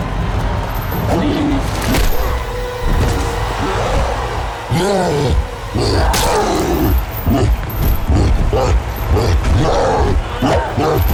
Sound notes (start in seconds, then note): 1.7 Marcus groans; 5.6 Barbara grunts